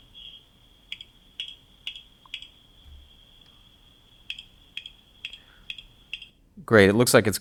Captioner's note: snapping